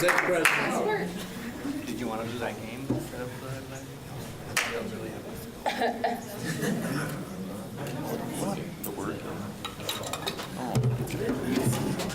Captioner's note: applause; muffled conversation